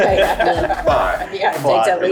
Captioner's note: group laughs